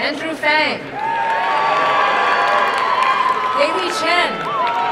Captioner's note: crowd cheering and applauding